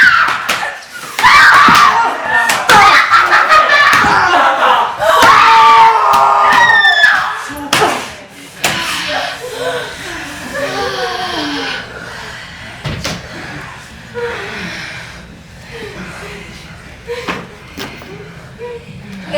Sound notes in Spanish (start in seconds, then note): 12.5 Terminan los gritos y los gruñidos